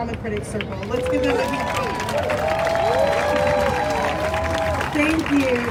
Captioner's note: crowd cheers